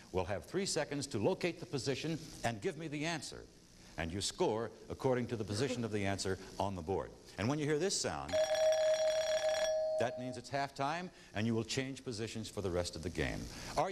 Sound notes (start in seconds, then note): 8.3 chiming